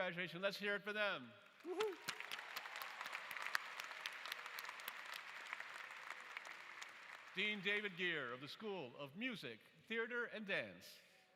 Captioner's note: applause